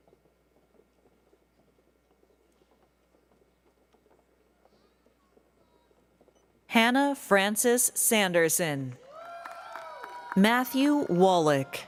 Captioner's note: applause